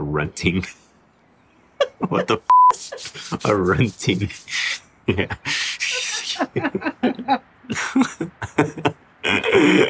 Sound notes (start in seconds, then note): 1.8 laughs; 2.4 beep; 5.0 producer and host laughing